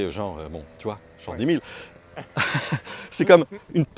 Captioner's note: laughs